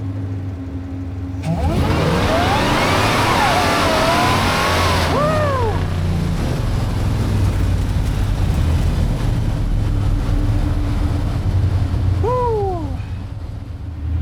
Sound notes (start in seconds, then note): 1.3 engine Revving